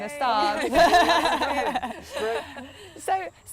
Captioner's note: laughter